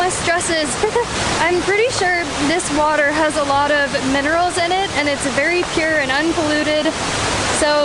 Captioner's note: laughs